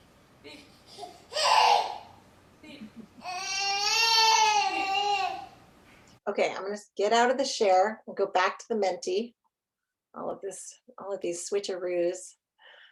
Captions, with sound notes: Beep. (baby laughing) Beep. (baby cries out) Beep. - Okay, I'm gonna get out of the share, we'll go back to the Menti. All of these switcheroos.